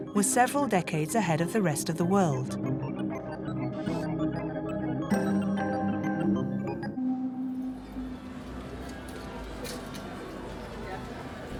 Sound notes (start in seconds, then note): 3.1 machine beeping; 4.3 pensive music